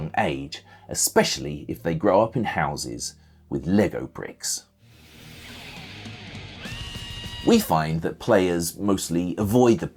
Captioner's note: scream!